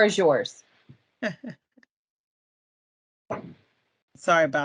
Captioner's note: chuckles